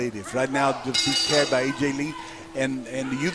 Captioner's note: bell ringing